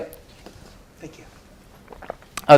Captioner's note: gulps